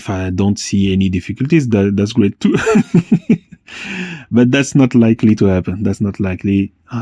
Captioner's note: laughs